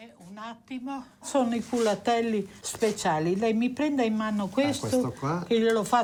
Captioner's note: speaks in foreign language